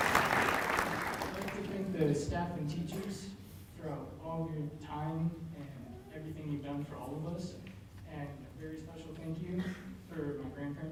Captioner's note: applause